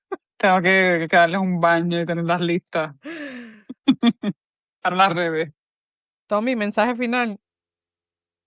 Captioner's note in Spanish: risas